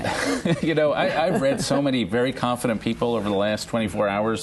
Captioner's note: laughter